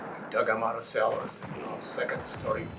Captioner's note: guns and battle rage